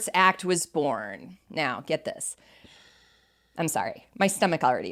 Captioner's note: heavy sigh